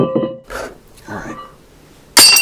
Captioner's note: tink sounds